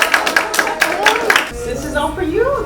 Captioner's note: people clapping